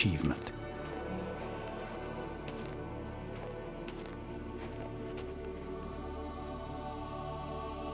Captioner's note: crunching snow; soft orchestra music